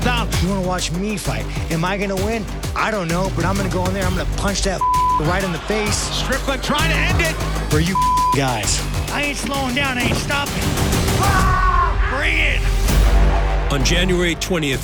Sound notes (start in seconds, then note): 10.6 yelling